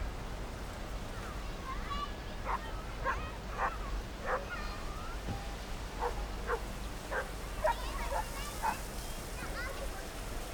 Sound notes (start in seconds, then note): 2.3 dog barking in the distance